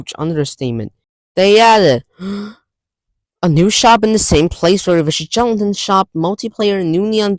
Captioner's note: inhales breath